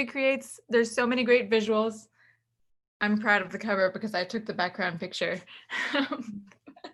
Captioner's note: laughs